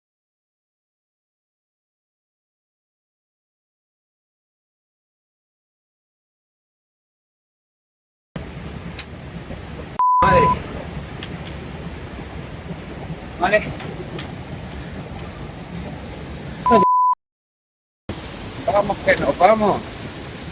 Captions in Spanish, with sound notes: [Pitido] Vale? [Pitido] Vamos que nos vamos!